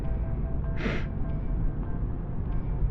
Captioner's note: sniffs